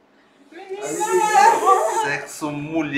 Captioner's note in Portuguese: gritos comemorativos